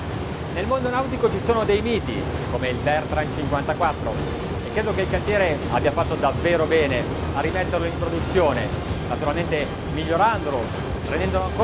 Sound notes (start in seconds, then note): 0.8 speaking in foreign language